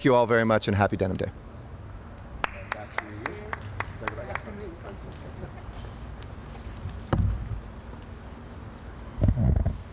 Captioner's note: applause